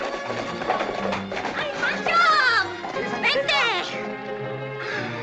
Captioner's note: speaking in spanish